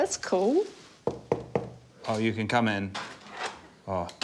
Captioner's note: knocking on door; door creaks